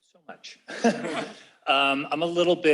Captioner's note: laughter